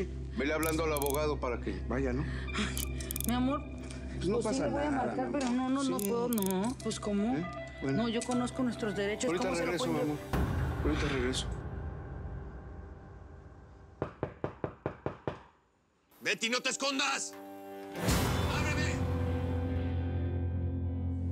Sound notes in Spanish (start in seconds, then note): 14.0 Toques en la puerta